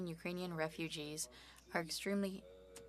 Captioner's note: speaking French